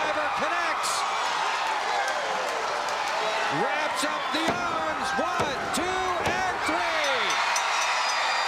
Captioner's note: applause